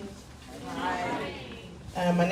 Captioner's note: crowd